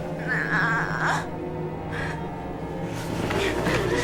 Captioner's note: sexual moaning